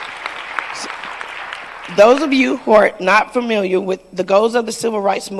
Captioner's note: applause